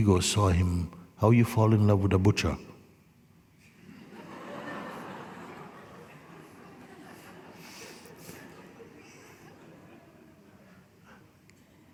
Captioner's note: laughter